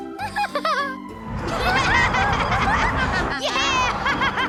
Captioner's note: laughing, snorting; laughing